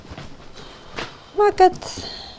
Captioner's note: in irish